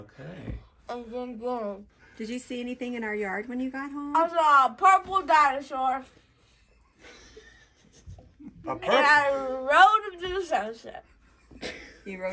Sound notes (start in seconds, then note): 7.0 father laughing